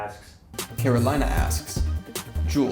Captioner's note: voiceover